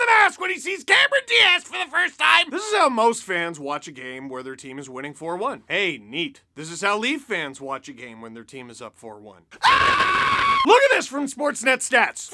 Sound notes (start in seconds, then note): 9.5 screams